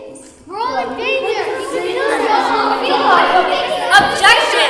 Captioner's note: overlapping expressions of worry